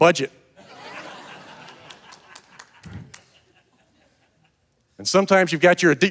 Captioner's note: audience laughing and clapping